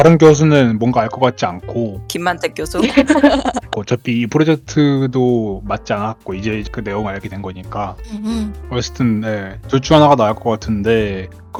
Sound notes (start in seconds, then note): 2.7 laugh